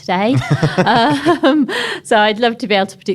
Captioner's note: laughs